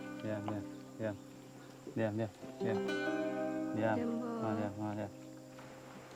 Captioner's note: speaking in foreign language